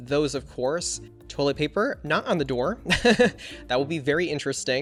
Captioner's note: laughs